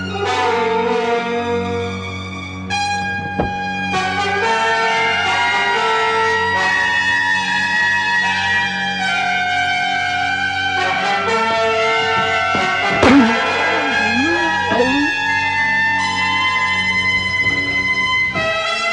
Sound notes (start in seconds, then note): 0.0 sinister music continues; 13.9 ghoul groaning